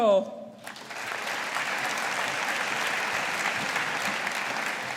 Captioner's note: audience applauding